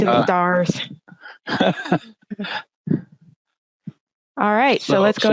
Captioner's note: laughing